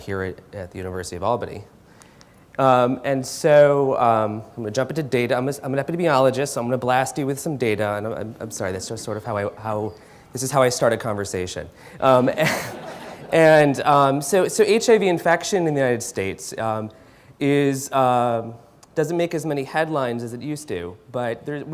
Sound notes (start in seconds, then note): 12.1 laughter